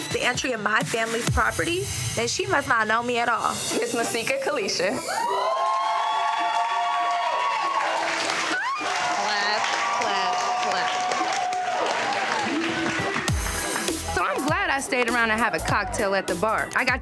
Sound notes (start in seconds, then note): 5.4 crowd cheering